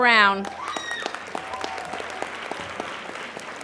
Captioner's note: applauding